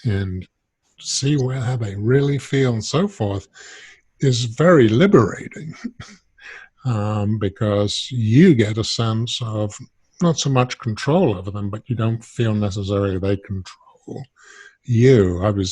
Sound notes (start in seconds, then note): 4.2 chuckles